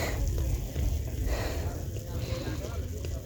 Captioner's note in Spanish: resoplido